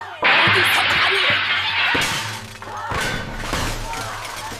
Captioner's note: Wow! The sound of a bowl breaking